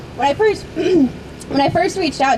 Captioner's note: voice breaks